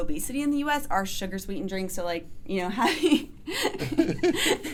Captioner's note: laughs